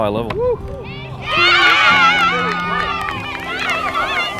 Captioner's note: cheering